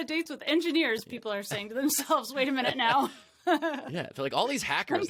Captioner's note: laughs